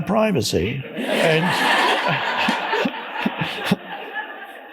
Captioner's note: audience laughs